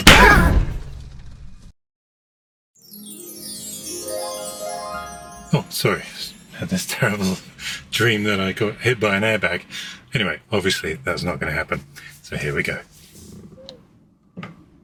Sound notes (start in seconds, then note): 0.1 loud popping sound; 0.1 yells; 2.8 sparkling sounds